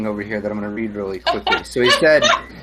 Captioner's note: laughs